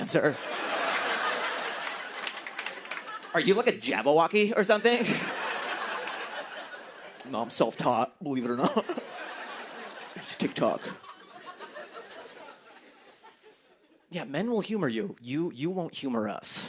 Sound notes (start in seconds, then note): 0.0 laughter and applause; 4.9 laughter; 8.4 laughter